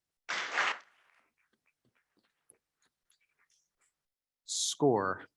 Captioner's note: members clapping